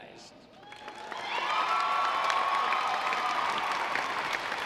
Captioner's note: audience applauds